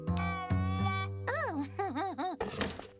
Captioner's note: chuckling